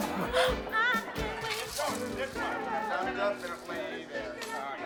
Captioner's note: men Talking